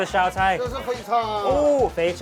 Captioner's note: man speaks in a foreign language